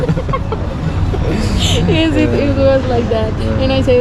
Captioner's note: laughing to death